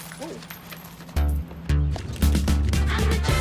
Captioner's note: coins falling